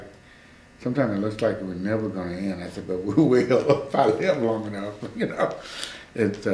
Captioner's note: laughs